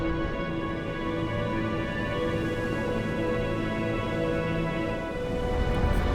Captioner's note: somber orchestral music; whooshing